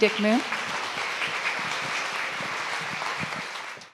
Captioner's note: audience applauds